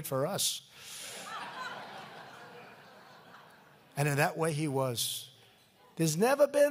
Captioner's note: laughter